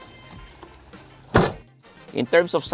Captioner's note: door thuds